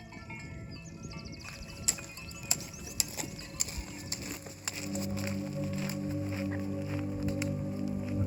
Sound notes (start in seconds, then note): 2.5 clicking; 4.6 soft music